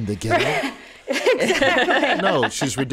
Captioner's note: laughs